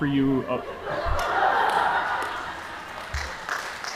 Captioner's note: audience laughing; audience applauding